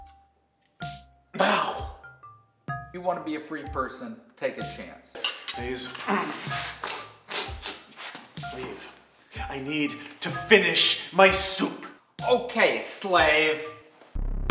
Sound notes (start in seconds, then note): 6.0 sniffling; 6.0 clears throat